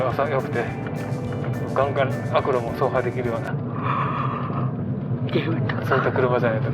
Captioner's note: yawns